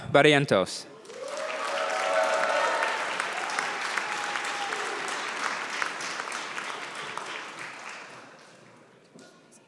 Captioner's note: applause